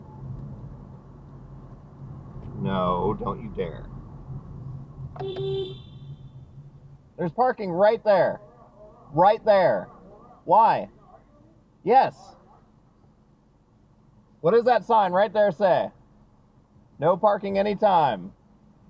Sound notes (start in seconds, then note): 5.2 beep BEEEP